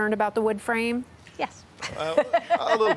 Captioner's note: laughs